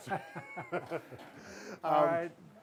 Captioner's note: laughs